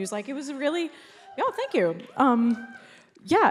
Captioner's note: crowd cheers